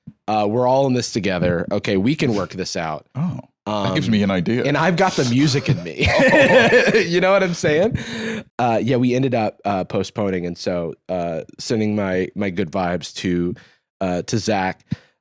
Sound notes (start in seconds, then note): 4.9 laughs